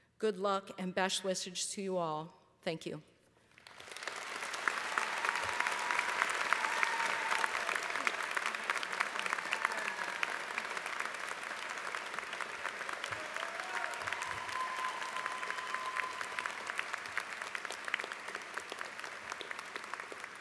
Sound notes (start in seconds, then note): 4.0 applause